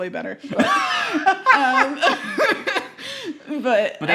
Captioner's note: laughing